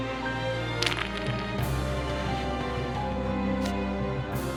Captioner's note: dice rolling